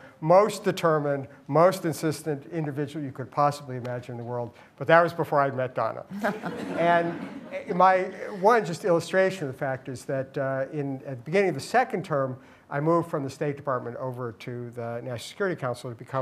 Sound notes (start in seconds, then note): 6.1 laughter